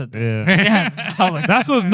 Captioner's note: laughing